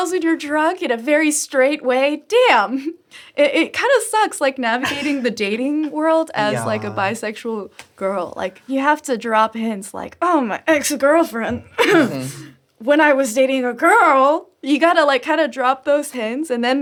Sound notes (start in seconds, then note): 11.6 cough